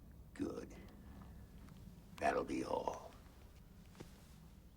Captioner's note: none